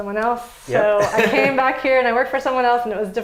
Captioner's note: laughs